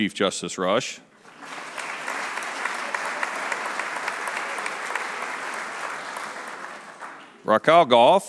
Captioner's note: applause